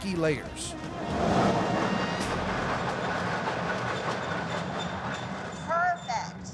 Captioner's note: machine grinding sound